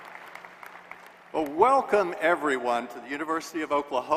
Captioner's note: applause